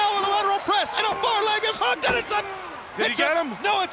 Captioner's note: body thudding